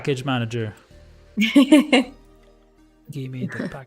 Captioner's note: laughs